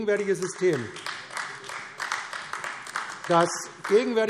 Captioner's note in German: Beifall AfD